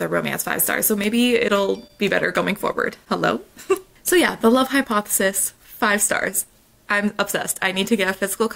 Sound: phone ding

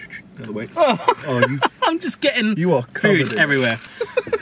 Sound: laughs

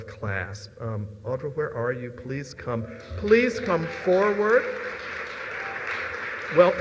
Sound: applause

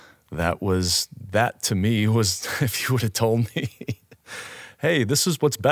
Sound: laughs

